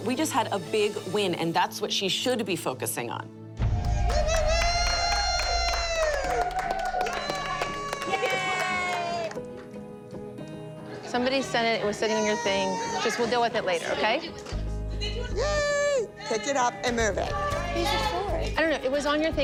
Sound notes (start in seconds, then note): 3.6 cheering, applause